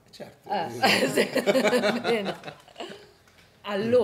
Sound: laughter

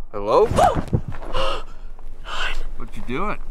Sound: Vanessa yelping

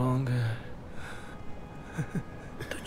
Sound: Shorya chukles

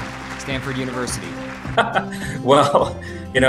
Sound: laughs

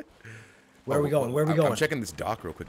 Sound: laugh

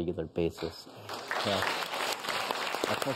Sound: audience claps

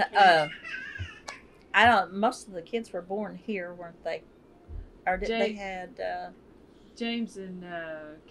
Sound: laughter

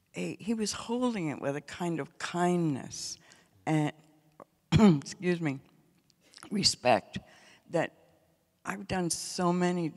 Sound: coughs

